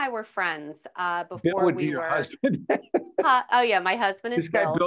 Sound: laughing

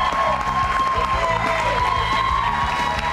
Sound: cheers

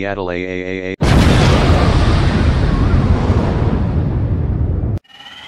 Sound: explosion

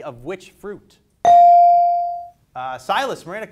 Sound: bell dings

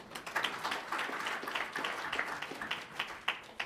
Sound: applause

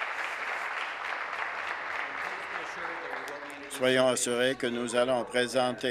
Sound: applause

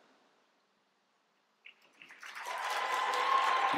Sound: applause

